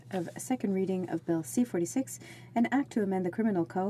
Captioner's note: speaking french